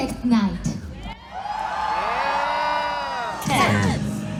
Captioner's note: cheering